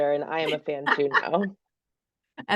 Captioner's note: laughs